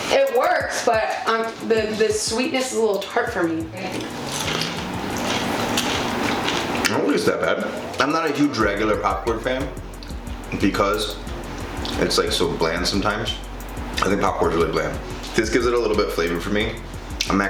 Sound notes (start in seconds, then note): 3.9 crunching